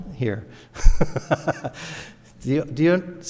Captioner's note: laughs